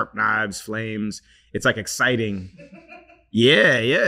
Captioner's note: crew member laughing